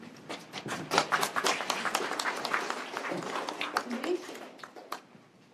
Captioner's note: applause